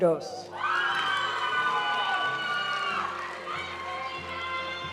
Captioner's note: audience cheering and applauding; graduation music